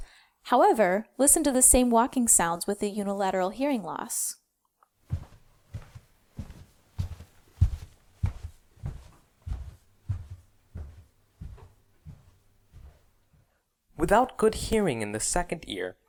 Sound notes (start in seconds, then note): 5.0 footsteps with unilateral hearing loss